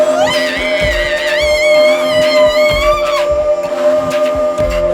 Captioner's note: wailing